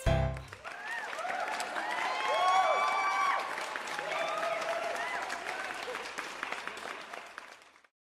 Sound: crowd clapping and cheers

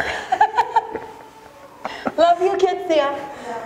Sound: laughter

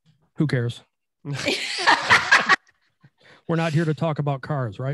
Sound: laughing

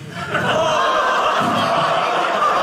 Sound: audience laughing

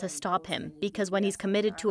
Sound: speaking French

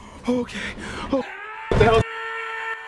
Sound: Angry Grandpa Yell

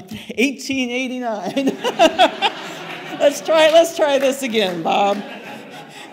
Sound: laughter

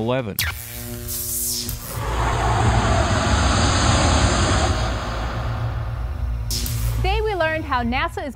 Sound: sound Effects

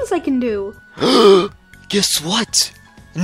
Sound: gasp

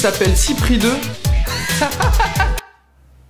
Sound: fake laugh

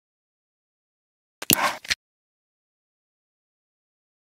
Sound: click and snap

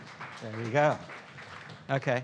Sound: students applauding

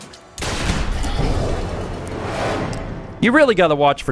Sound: boombahabamtagabababoomm!

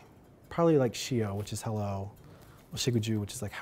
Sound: speaking Cherokee

